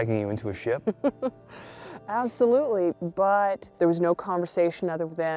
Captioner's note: chuckles